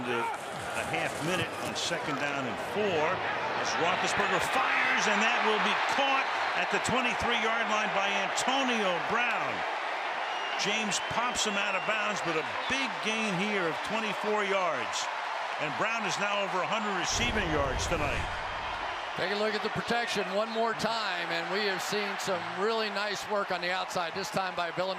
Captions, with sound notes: Clock down to a half minute on second down and 4. As Roethlisberger fires and that will be caught at the 23 yard line by Antonio Brown. [cheering] James pops him out of bounds. But a big gain here of 24 yards. And Brown is now over 100 receiving yards tonight. Take a look at the protection one more time. And we have seen some really nice work on the outside.